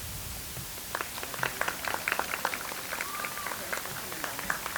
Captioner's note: audience applauds